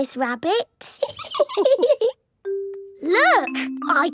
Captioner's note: laughing